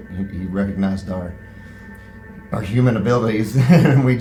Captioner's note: chuckles